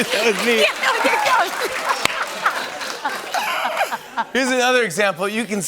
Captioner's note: laughter